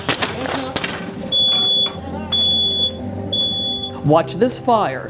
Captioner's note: fire alarm going off